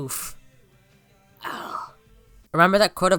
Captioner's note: groans